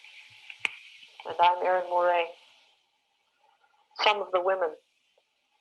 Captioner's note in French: Recording playing